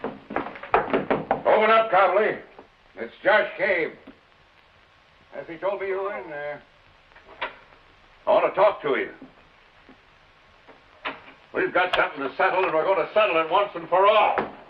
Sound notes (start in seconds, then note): 0.6 knocking on door